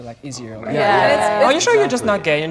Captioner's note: group chattering